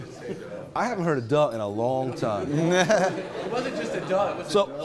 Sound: laughing

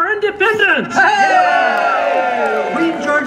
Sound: audience cheers

